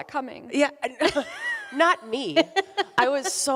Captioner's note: both laughing